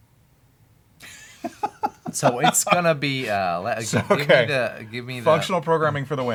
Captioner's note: laughs